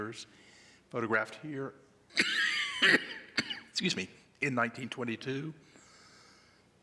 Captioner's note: coughing